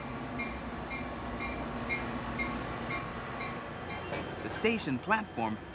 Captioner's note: train bell clanking